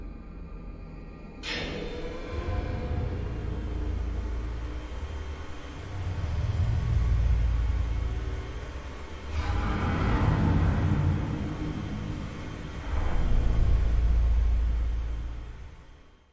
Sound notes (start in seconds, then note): none